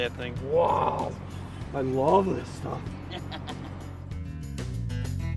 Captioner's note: laughing